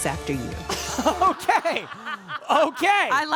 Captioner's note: audience laughing